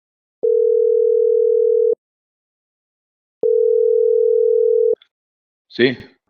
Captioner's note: telephone ringing